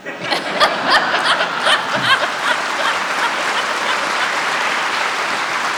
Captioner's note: audience laughs, applauds